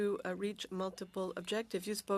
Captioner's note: speaking French